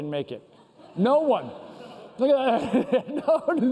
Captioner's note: laughter